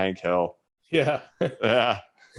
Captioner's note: laughs